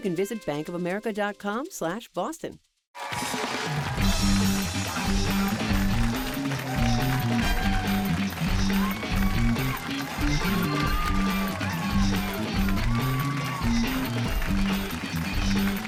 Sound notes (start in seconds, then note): 6.1 cheers and applause